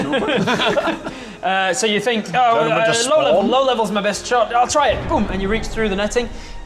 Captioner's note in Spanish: boom